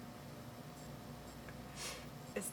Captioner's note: sniffles